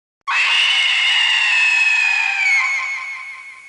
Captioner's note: screams